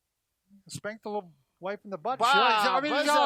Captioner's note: yells